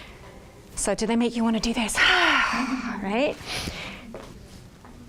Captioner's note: sighs